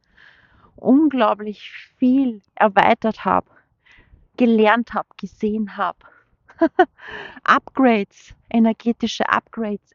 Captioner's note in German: gelächter